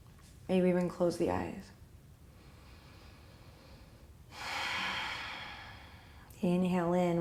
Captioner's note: deep breath